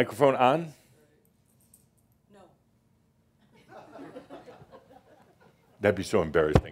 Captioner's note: more chuckles